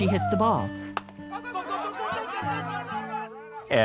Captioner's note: ball hitting; crowd cheering